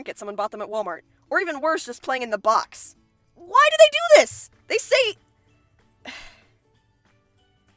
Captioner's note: sigh